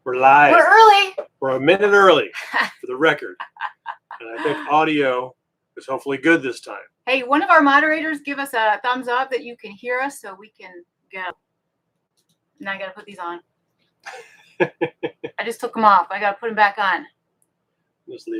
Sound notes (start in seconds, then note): 3.0 laughing; 14.0 laughing